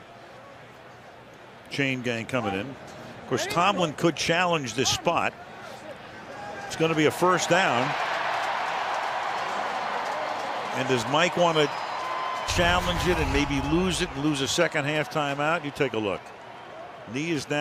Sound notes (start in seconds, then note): 8.4 crowd cheering